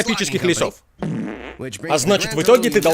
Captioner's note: passes gas